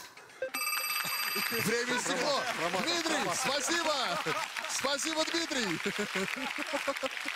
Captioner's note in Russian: звонок